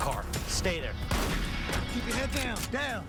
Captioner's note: gunshot